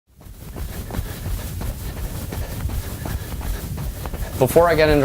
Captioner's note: sound of runner's footsteps